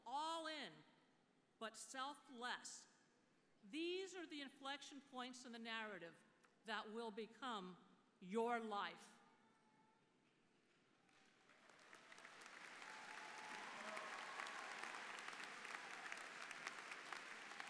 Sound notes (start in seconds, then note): 10.6 applause